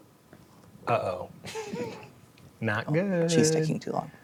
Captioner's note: chuckles